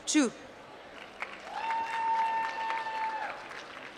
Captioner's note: applause